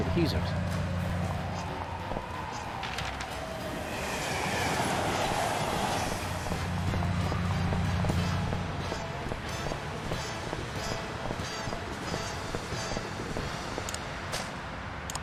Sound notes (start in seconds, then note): 3.9 screaming; 7.8 horn honks